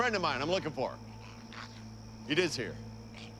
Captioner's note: grumbling